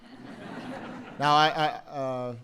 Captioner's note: laughter